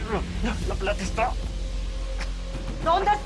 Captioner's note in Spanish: Quejidos